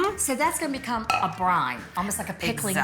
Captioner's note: object knocking